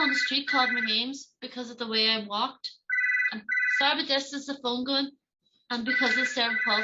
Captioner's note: phone ringing